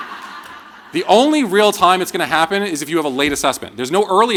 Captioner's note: laughter